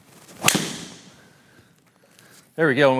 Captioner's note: golf ball cracks